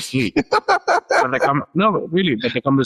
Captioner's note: laughs